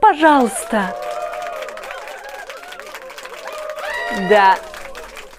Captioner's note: clapping, cheers